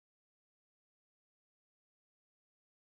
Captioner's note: none